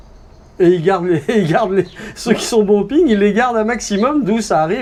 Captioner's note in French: rires